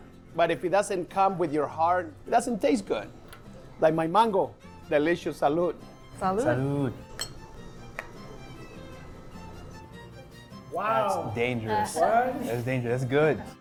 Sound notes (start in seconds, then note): 7.3 drinks clink